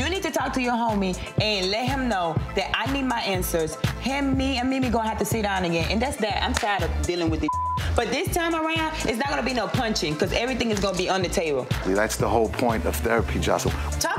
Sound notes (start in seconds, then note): 7.4 beep